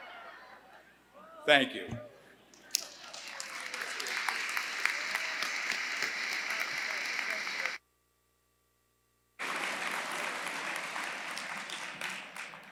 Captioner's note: laughter; applause